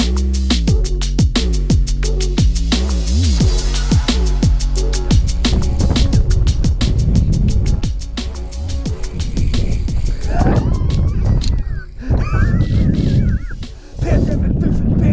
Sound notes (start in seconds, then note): 9.0 wind blows into speaker; 13.0 laughs